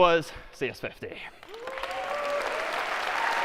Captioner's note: applause